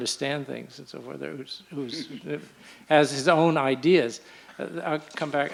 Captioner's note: laughs